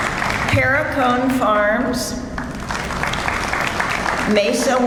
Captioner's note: audience applauds; audience applauds